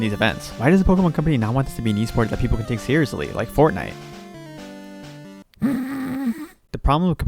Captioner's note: nose laugh